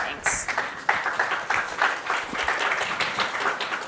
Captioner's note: applause